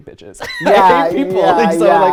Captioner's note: laughing